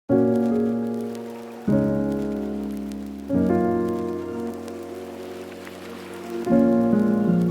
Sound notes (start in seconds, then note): 0.1 soft music; 0.1 water whooshing